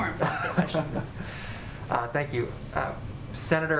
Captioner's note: laughs